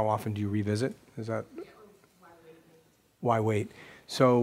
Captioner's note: voiceover